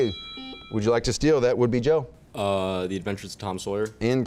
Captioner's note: chimes